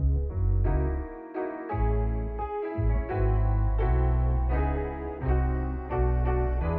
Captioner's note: none